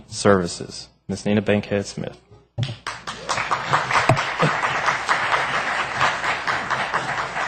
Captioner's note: applause